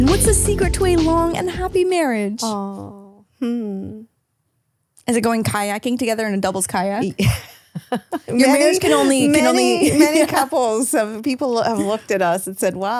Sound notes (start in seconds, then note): 7.1 laughing